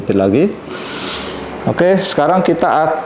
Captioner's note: inhale